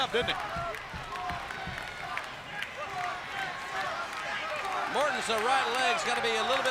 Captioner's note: crowd cheering